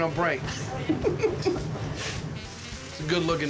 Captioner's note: laughter